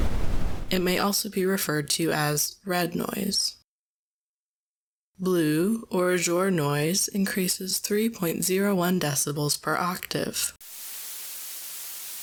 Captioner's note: blue noise